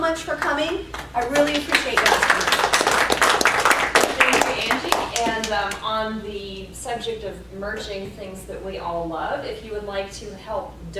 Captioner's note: applause